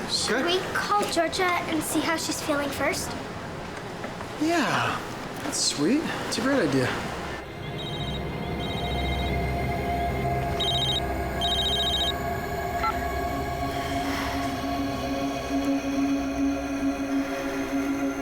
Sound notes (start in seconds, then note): 7.7 cell phone rings